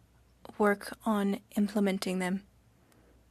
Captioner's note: speaking French